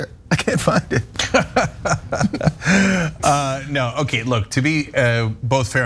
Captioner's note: laugh